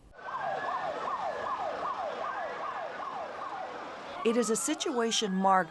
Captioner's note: sirens blaring